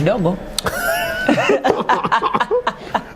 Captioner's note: laughter